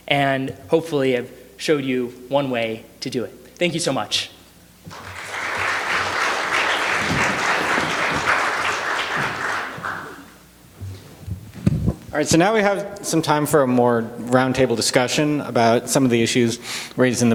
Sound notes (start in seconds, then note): 4.9 applause